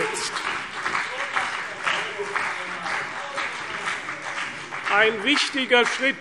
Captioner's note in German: Beifall CDU und BÜNDNIS 90/DIE GRÜNEN